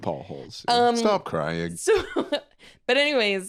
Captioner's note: laughs